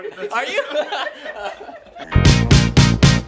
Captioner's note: laughter; rhythmic music